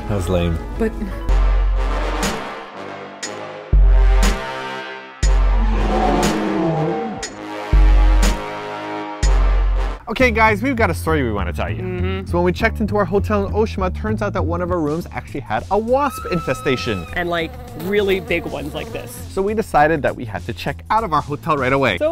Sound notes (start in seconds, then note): 1.6 intense bass music; 5.4 Godzilla roars; 7.7 intense bass music; 16.0 high pitched scream